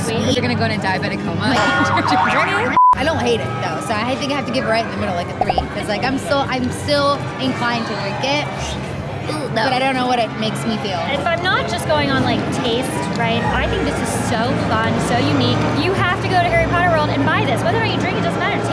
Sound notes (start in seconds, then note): 1.5 beep; 1.8 spring boinking